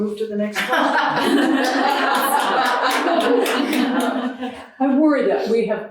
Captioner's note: audience laughing